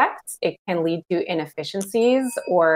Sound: bell dings

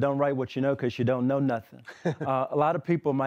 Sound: laughter

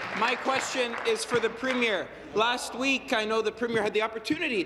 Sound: applause

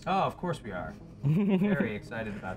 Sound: laughs

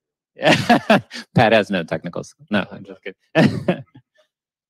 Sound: laughs; sarcastically

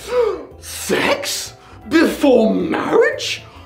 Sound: gasp

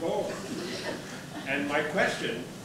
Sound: audience laughter

